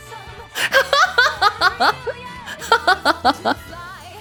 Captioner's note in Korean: 웃음